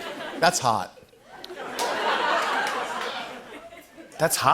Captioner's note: laughter